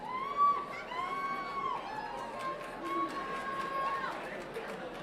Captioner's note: people cheering